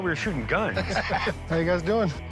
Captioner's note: laughs